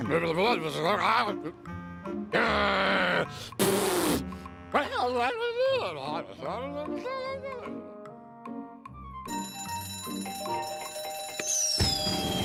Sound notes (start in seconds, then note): 9.3 bell ringing